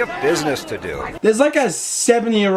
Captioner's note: reacting by laughing and questioning the movie